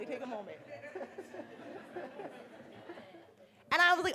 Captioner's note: murmurs